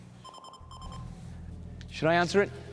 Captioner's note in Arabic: رنين vpn